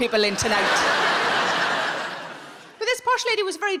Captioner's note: audience laughing